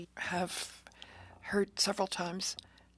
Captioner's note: speaking in French